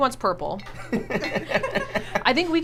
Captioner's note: laughs